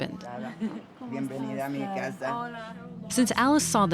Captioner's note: conversing in Spanish